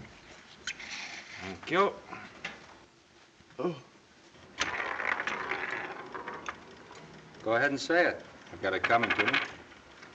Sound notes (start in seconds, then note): none